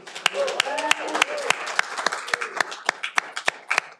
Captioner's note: audience applauding